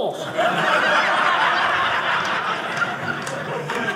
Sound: audience laughing

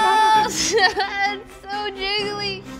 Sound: laughs

